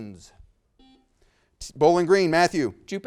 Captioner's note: buzzer beeps